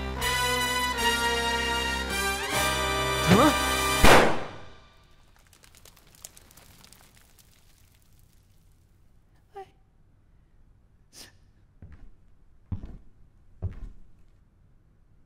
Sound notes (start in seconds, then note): 4.0 gunshot; 11.1 sniffling